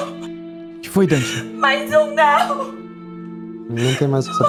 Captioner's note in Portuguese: chorando